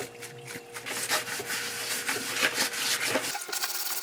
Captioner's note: rub rub